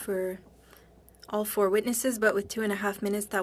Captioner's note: speaking French